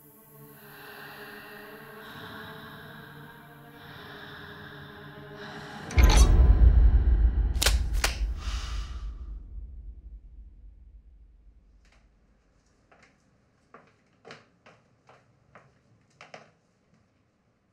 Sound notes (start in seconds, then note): 0.2 tense music; 7.6 gloves clicking; 12.7 footsteps thumping